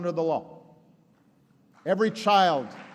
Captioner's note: applause